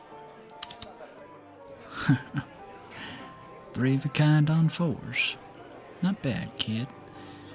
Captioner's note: chuckles